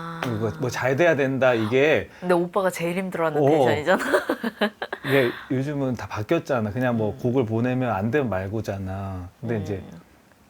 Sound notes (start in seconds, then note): 3.9 laughs